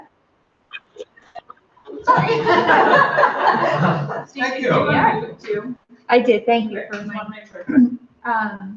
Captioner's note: laughing